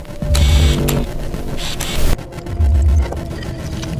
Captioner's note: raven cawing; tape buzzing